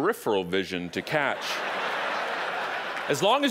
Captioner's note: audience laughing